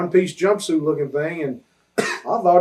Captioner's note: interviewer coughs